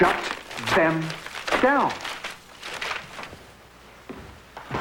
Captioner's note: tearing of paper